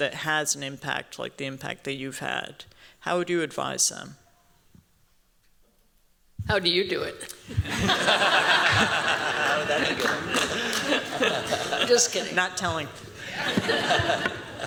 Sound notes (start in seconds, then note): 7.5 laughter